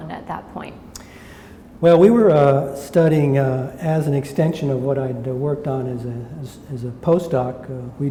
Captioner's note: smacks lips